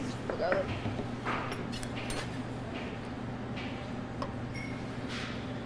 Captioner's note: metallic clinking